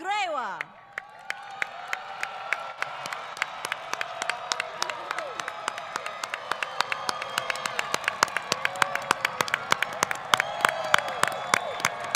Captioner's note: applause